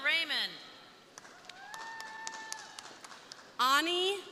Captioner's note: crowd applauding; crowd cheering